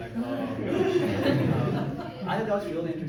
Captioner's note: crowd laughs